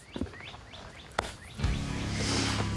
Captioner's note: hand pats; suspenseful Western music